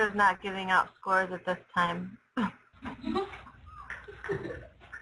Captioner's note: laughter